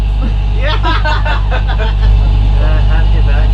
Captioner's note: laughter